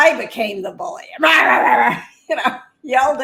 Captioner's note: growling